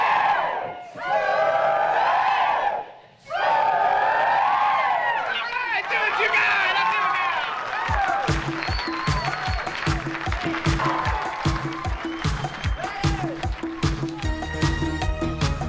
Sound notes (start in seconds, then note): 5.7 cheering and applauding; 7.8 upbeat electronic music